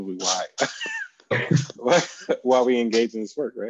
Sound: laughing

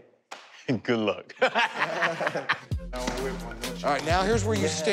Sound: laughter

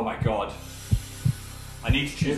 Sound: breathes heavily

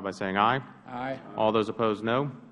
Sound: chorus of ayes

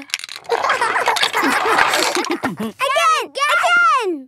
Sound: laughter

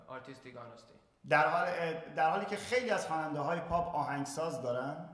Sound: speaking in farsi

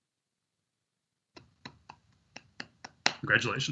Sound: clapping

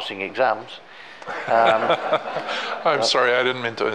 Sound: all laughing

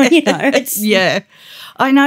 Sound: laughter

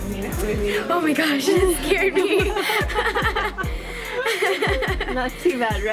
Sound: laughter

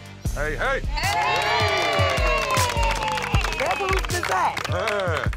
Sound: cheering

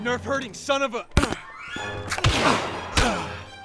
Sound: grunts

